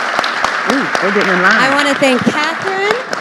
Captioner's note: audience applauding